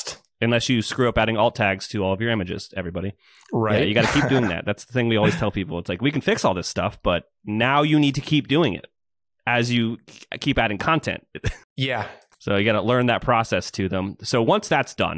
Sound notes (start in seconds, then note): 3.8 laughs